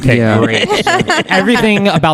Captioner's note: laugh